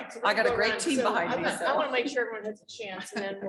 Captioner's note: chuckling